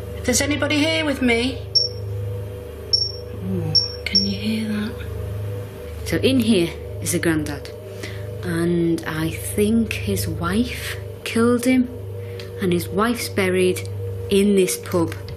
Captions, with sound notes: If there's anybody here with me... (metre beeps) Oh, can you hear that? - In here is the granddad. I think his wife killed him, and his wife's buried in this pub